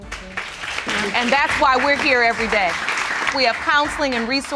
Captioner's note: applause